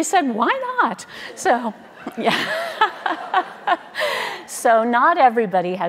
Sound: laughing

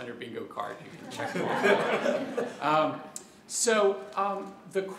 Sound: laughter

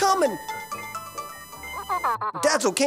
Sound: phone ringing

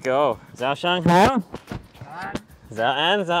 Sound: speaks in foreign language; driver speaks in foreign language; speaks in foreign language

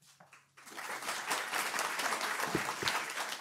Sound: clapping

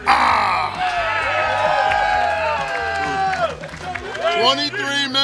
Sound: cheering & Clapping

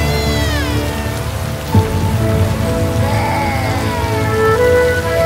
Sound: baby crying

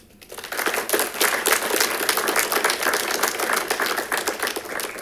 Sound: congregation claps

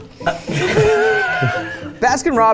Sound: group laughing

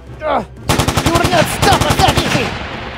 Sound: rapid Gun Fire

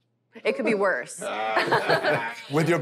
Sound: laughter

